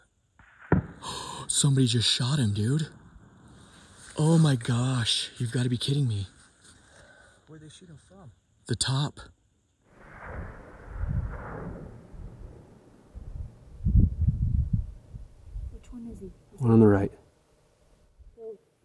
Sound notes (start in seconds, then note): 0.4 gun shot; 0.9 gasps